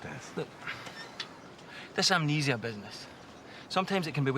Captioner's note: sighs